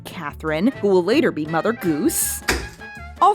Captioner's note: thump